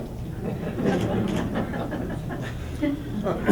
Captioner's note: laughter